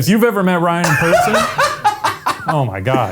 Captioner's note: Ryan laughs